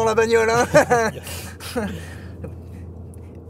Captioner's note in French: rires